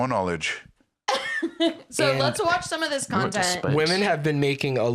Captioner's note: laughs